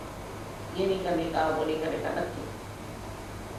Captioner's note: hindi